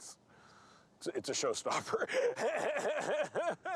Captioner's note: laughing